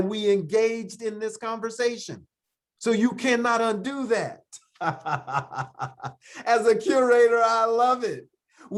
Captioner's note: laughs